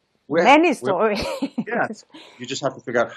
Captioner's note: laughs